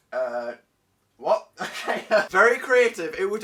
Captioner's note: laughs